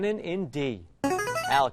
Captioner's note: player buzzer